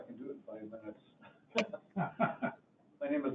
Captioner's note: laughing